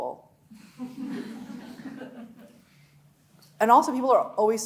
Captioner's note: audience laughing